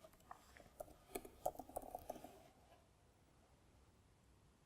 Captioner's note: keyboard clicking